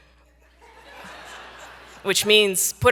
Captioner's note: audience laughing